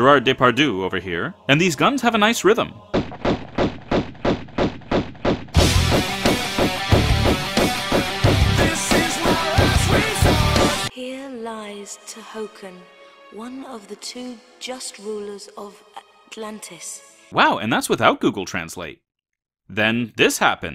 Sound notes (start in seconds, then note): 5.5 gunshots mixed